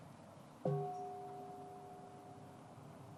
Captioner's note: bell ringing